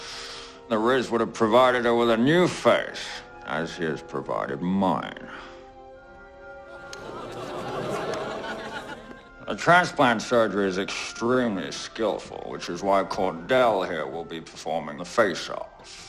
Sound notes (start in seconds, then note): 6.7 audience oohs and chuckles